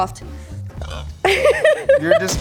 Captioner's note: Belch